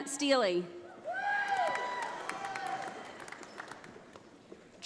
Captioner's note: audience applauding